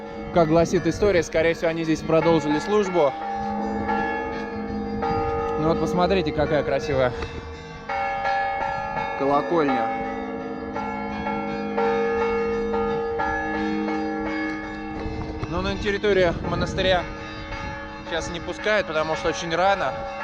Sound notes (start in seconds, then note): 10.1 bells ringing